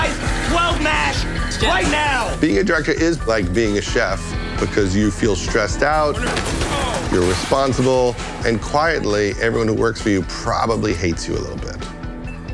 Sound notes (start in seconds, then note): 6.2 cooking pans crash